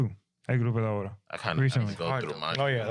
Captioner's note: speaking In Foreign Language